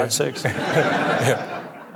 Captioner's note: audience laughing